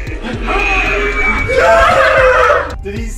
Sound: clown screams

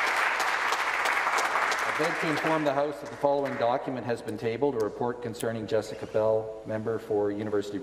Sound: applause

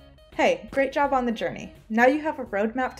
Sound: footsteps

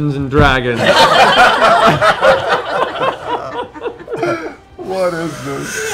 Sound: laughter

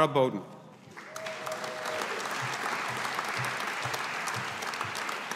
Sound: audience applauding

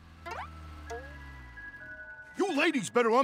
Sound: chiming

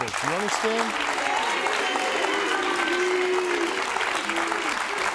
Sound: audience applauding

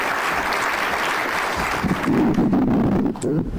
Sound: clapping

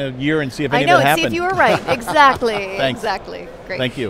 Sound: laughing

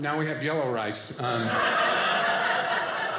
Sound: audience laughing

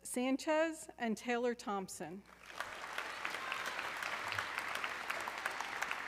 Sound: audience clapping

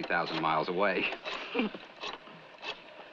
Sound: chuckles

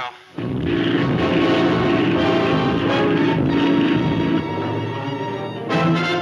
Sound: airplane engine sputte; suspenseful music

